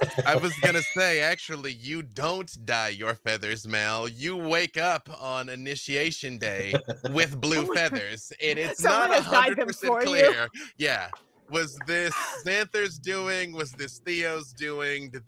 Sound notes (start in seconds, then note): 0.0 laughs; 6.6 laughing